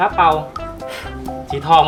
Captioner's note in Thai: ฟู่ววววว